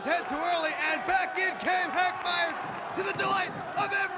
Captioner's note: crowd chatter